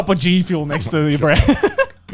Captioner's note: chuckling